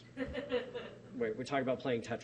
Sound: laughing

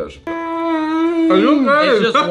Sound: moaning

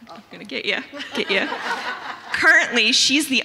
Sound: audience chuckling

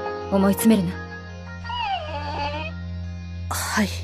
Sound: whine

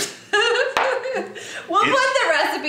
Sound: laughing

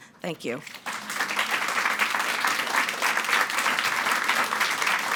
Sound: audience clapping

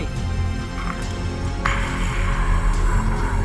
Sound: zombie groans approach

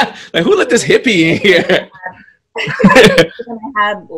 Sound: laughs

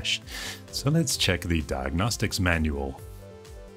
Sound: American accent

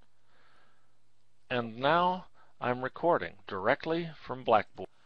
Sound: recorded voice playing

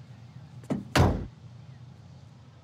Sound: car door thuds

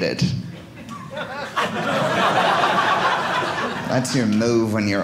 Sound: audience laughing

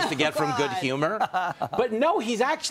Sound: laughter

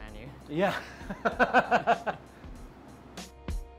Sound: laughter; light upbeat music

